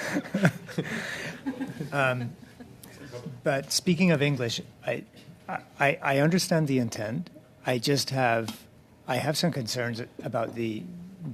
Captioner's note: laughter